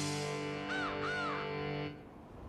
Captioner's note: crow cawing